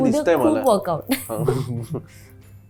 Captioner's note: chuckles